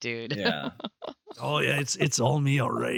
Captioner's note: in creepy voice